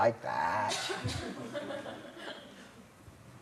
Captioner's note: laughter